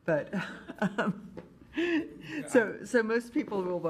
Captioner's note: laughing